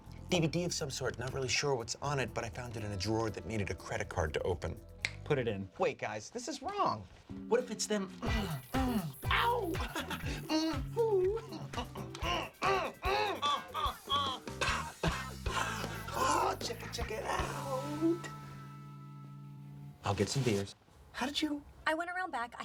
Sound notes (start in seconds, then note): 14.6 chuckles; 16.4 grunting